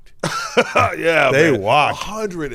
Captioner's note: laughs